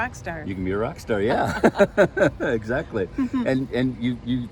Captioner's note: laughing